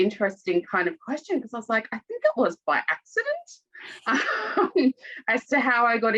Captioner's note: chuckles